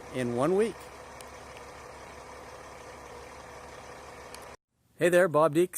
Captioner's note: engine whirring